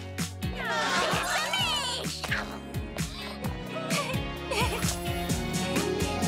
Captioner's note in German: verlegen lach